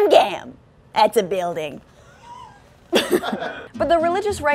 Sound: off-camera laughter

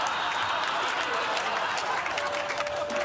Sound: crowd laughing

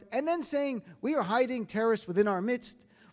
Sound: none

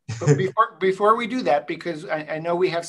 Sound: laughs

